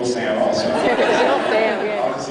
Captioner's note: laughing; laughs